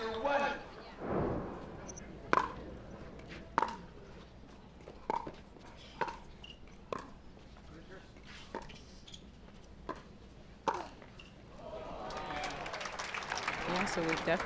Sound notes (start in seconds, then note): 11.6 crowd groans; 11.6 crowd applauds